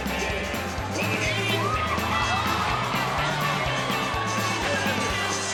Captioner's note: crowd gasps